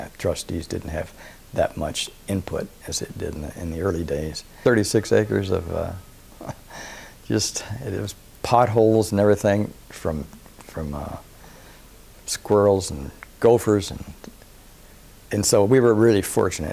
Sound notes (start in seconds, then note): 6.4 laugh